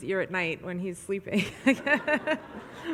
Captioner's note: audience laughs; laughs